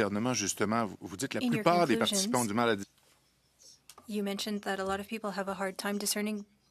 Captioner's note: speaking French